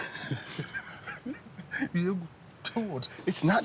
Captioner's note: both chuckle